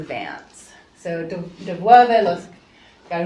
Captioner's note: speaking spanish